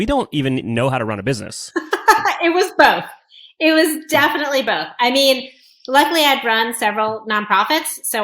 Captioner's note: laughs